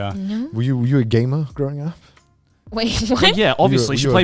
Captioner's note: laughs